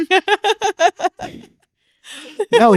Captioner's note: laughing